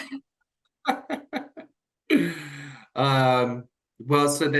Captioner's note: chuckles